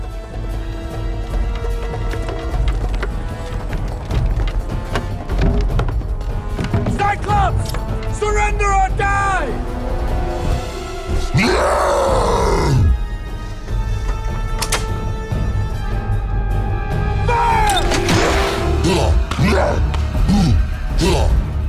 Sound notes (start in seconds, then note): 0.2 suspenseful music playing; 11.1 roars; 13.4 clicks; 18.7 suspenseful music playing